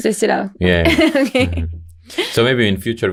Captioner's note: laughing